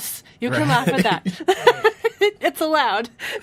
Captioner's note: laughs